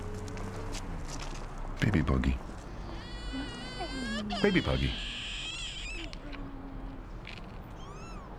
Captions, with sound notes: -Baby buggy. (Baby crying) - Hey! -Baby buggy.